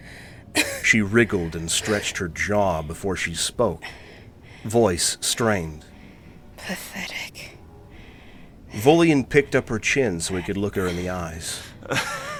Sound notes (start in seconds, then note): 6.5 weak but defiant